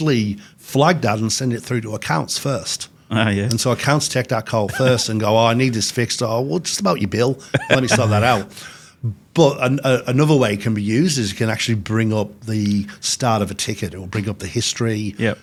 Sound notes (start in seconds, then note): 7.4 laughs